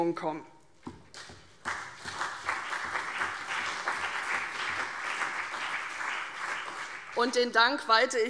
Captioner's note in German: Beifall CDU und BÜNDNIS 90/DIE GRÜNEN